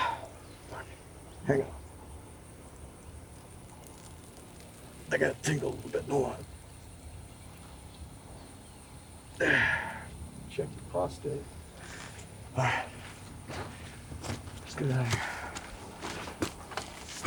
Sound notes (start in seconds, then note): 0.0 Anderson sighing; 2.4 urination trickling; 9.4 Anderson sighing